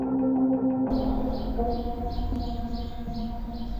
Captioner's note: birds chirping